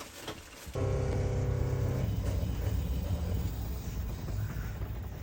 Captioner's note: mashine and pump sound